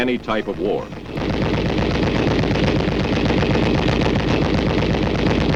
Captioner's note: gunshots booming